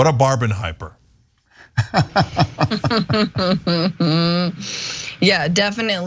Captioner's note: laugh